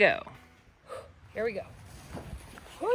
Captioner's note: huffs